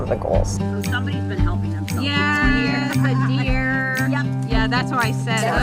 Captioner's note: chatting